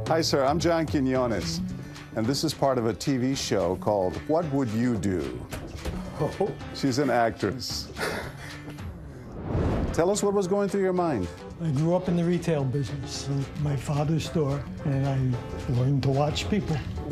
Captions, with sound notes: Hi sir, I'm John Quinones. And this is part of a TV show called 'What Would You Do?' -Oh! (chuckles) -She's an actress. Tell us what was going through your mind. I grew up in the retail business, my father's store. And I learned to watch people.